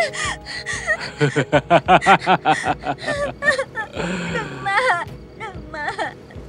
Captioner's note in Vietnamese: Tiếng cười